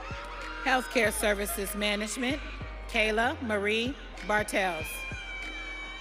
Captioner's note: audience cheering